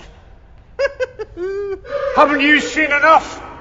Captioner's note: laughing